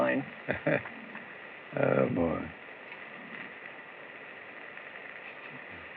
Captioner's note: chuckles